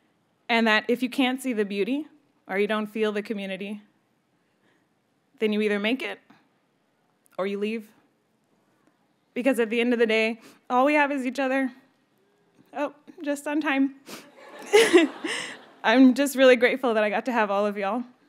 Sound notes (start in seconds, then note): 14.0 sniffles; 14.4 audience laughs